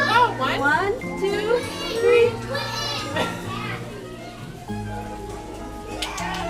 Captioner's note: blowing; clapping